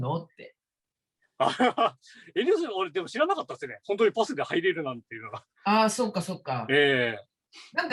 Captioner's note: haha